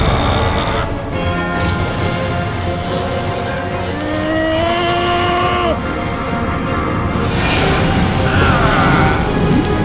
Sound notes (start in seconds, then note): 1.5 electricity zapping; 5.9 frost crackling